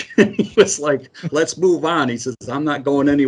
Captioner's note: chuckles